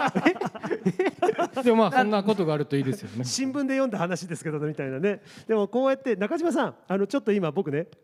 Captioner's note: laughs